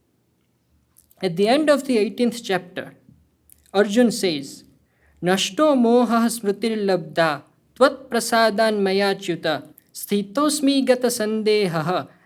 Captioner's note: speaking hindi